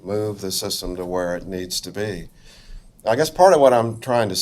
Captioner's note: none